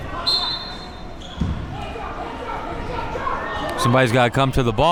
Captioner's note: whistle blows